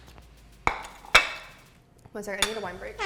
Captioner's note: plate clinks